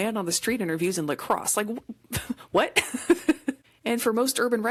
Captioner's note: laughs